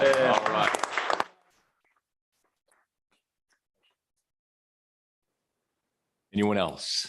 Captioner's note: audience clapping